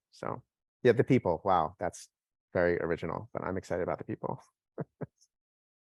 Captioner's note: laughs